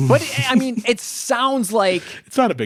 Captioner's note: laughs